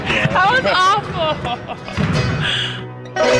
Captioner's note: laughs